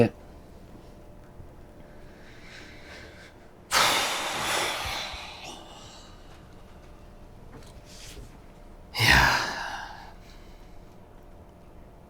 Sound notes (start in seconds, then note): 3.7 Colin loudly sighs